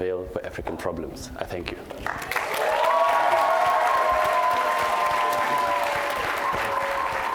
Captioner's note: applause